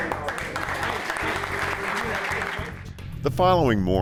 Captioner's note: applause